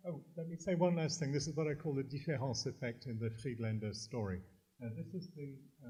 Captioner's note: french